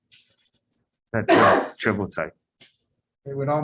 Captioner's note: man coughing